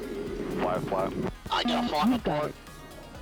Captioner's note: radio chatter